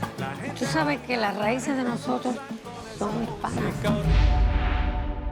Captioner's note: speaks Spanish